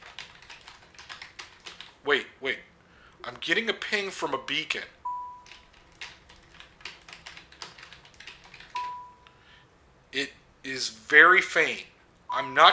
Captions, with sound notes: wait wait I'm getting a ping from a beacon (ding) (ding) It is very faint